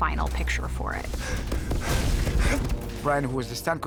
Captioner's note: panting